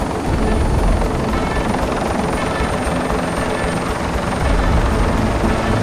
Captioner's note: helicopter roars continue